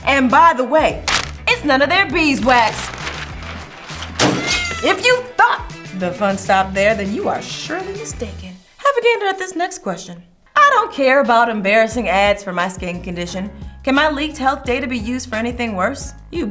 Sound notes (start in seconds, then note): 2.0 paper rustling; 4.2 cat meowing